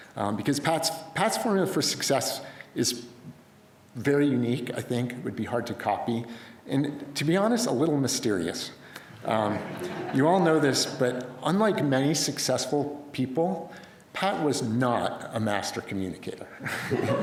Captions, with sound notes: Because Pat's Pat's formula for success is very unique. I think it would be hard to copy, and, to be honest, a little mysterious, (crowd laughs). You all know this, but unlike many successful people, Pat was not a master communicator (laughter).